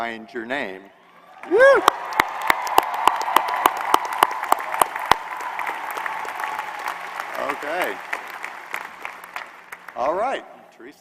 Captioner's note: applause